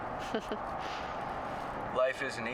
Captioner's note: slight giggle